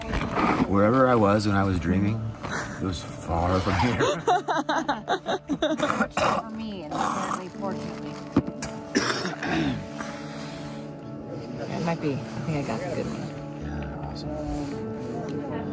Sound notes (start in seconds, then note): 4.0 laughing; 8.9 coughing